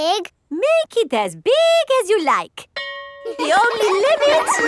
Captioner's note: school bell rings; children laughing